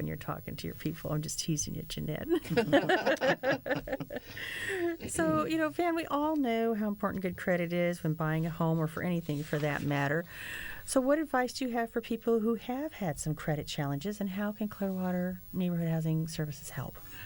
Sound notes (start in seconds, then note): 2.3 laughter